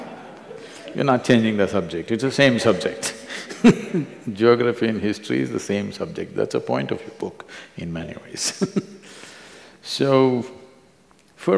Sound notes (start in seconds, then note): 0.0 laughter; 3.0 both laugh; 10.6 laughs